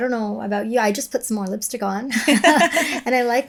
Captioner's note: chuckles